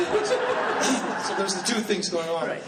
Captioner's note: laughter drowns out speaker